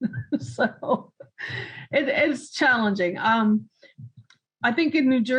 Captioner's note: chuckling